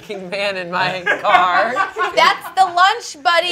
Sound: laughs

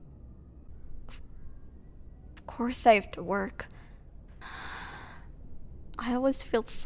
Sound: sigh

